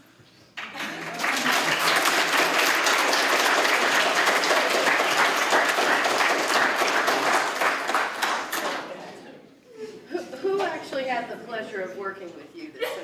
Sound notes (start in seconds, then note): 0.5 applause